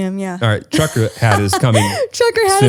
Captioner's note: laughs